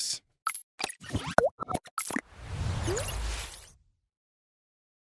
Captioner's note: robotic tones